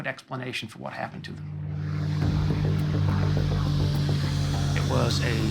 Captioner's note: plane engine